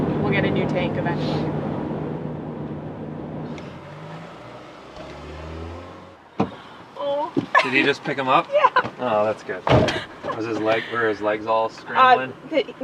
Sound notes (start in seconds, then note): 7.5 she laughs